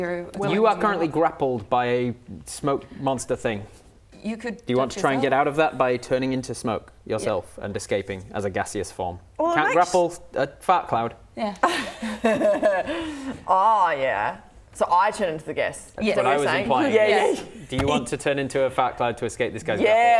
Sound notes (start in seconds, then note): 12.1 laughs